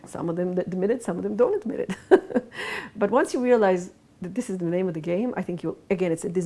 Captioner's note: laughs